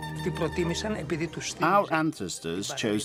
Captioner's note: speaking in foreign language